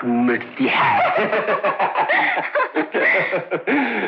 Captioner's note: Laughing